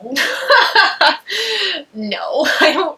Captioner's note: Eleanor laughs